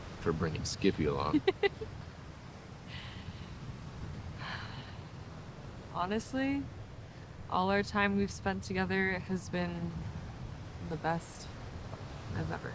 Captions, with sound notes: if we're bringing Skippy along. (Fern laughs) (Fern sighs) - Honestly, all our time we've spent together has been the best I've ever had.